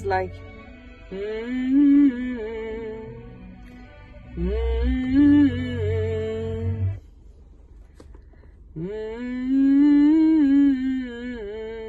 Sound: hums

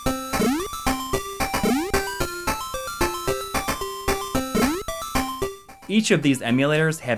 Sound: game audio

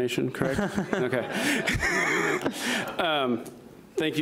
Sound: laughing

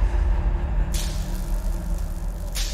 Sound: sparks crackling

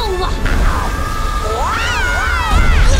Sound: both yelling

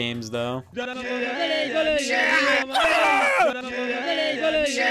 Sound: garbled screaming

